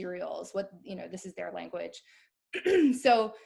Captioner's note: clears throat